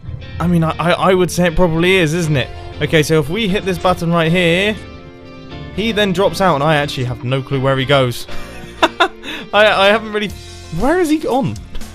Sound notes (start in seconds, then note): 8.3 laughter